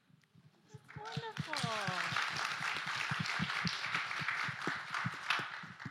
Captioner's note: applause